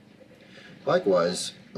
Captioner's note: none